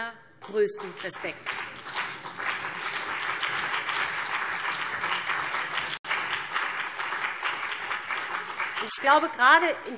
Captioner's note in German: Lebhafter Beifall BÜNDNIS 90/DIE GRÜNEN und CDU